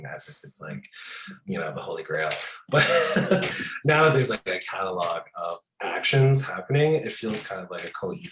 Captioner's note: laughing